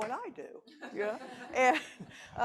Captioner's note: audience laughing